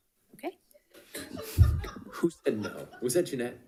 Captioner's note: all laughing